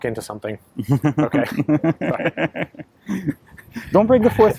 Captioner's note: laughing